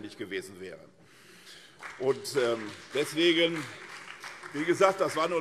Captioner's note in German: Beifall SPD und vereinzelt CDU - Zurufe Freie Demokraten